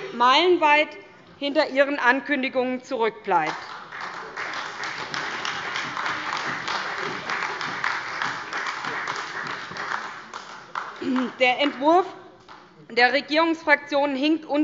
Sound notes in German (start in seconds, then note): 3.5 Beifall bei der SPD